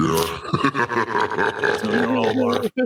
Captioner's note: laughing